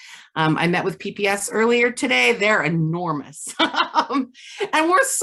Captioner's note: laughs